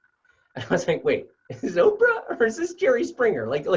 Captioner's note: laugh